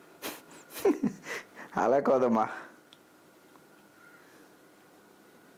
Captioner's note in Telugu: నవ్వు